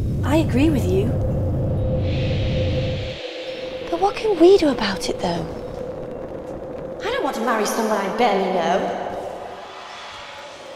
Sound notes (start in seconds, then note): 2.2 soft mysterious whooshing